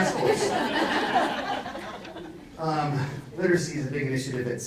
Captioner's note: audience laughs